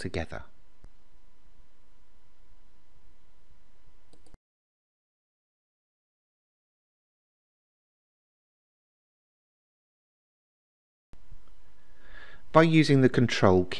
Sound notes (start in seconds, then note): 4.3 silence